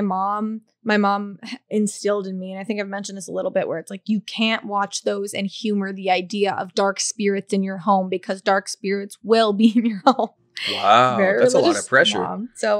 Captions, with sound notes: - Because my mom instilled in me, and I think I've mentioned this a little bit where it's like, you can't watch those and humor the idea of dark spirits in your home because dark spirits will be (laughing) - Wow, that's a lot of pressure.